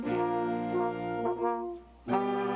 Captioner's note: none